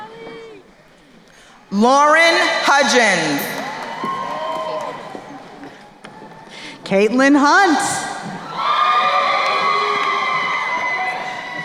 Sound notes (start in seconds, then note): 4.0 crowd cheering